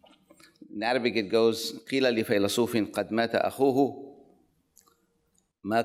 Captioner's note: speaks foreign language